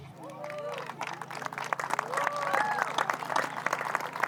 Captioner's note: applause